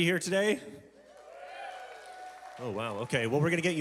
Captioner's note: congregation cheering